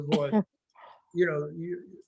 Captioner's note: laughing